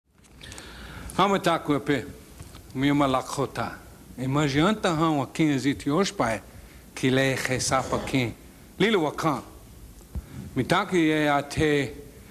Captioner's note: speaking the Lakota language